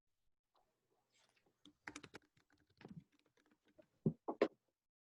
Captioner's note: keyboard clattering